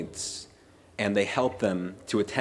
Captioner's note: none